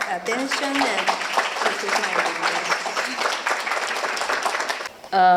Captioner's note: applause